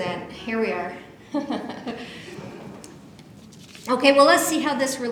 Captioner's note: laughs